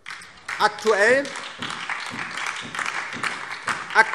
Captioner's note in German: Beifall DIE LINKE